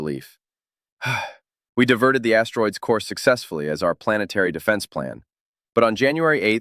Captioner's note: sigh